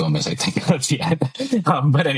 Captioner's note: laughs